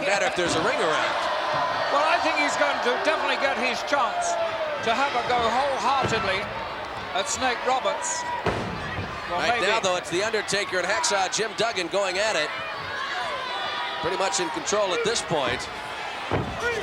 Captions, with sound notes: matter if there's a ring around. (crowd cheering) Well, I think he's going to- USA, USA! definitely get his chance to have a go wholeheartedly at Snake Roberts. (foot slamming) I think though it's the undertaker (Undertaker yelling) and Hacksaw Jim Duggan going at it. USA! Pretty much in control at this point. Two, three!